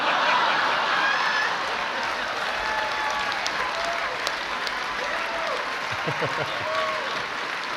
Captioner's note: laughter